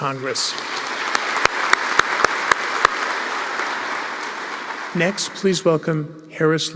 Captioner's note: applause